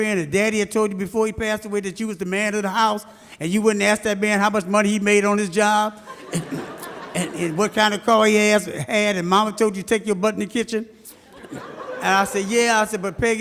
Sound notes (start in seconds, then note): 6.0 audience laughs; 11.1 audience laughs